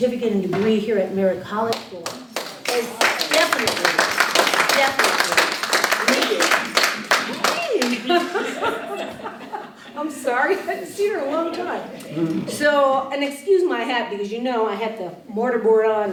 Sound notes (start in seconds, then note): 2.0 applause; 7.8 laughter